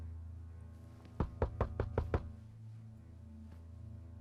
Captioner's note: knocking